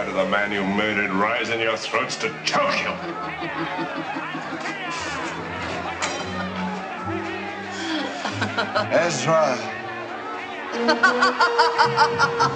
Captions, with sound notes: May the blood of the man you murdered rise in your throats to choke you. (people shouting) (Herodias laughing) - Ezra.